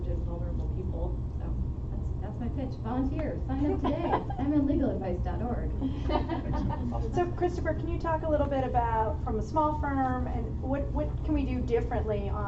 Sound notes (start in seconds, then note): 5.9 laughter